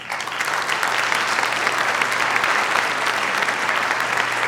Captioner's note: audience applauds